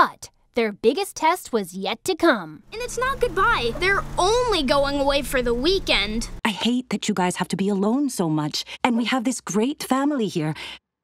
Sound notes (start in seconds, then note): none